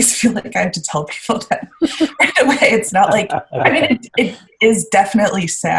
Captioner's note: laughing